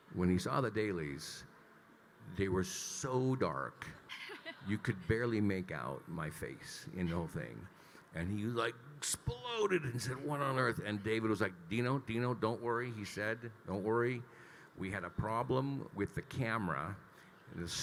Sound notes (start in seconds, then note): 4.1 laughing